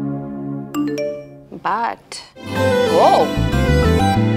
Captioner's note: Phone ringing